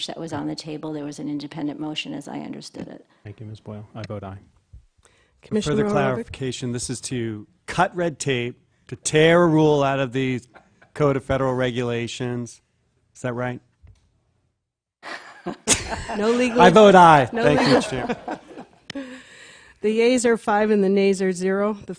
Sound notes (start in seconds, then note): 15.0 laughter